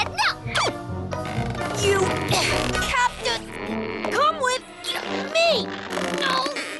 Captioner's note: creak!; squeak!